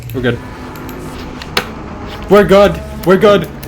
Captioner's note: creaking